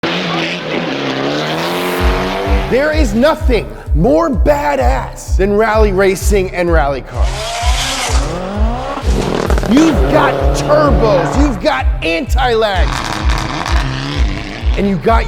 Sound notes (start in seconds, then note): 0.0 engine sounds; 7.0 car engines; 12.5 car engine